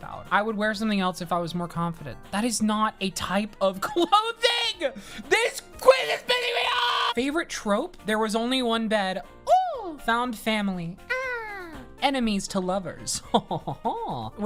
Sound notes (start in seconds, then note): 11.1 ooh!; 11.4 aah!